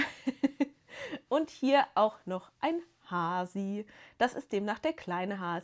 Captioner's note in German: gelächter